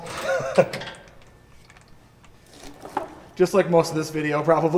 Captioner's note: laughing